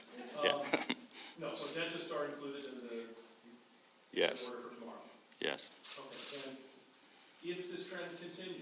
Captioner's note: laughter